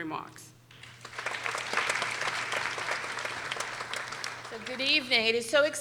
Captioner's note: people applauding